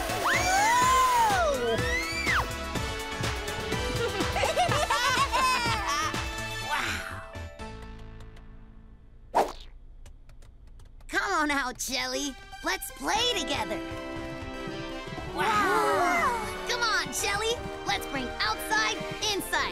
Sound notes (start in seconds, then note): 3.8 laughing